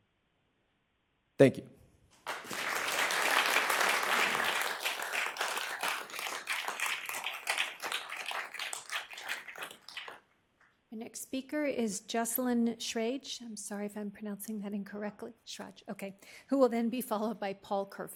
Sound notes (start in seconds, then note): 9.9 applause